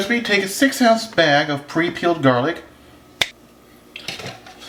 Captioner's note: finger snaps